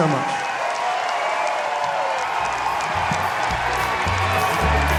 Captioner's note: audience cheering and applauding; audience applauding; upbeat country music